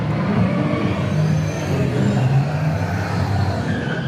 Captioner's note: engine roaring